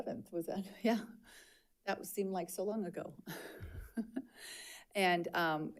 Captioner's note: chuckles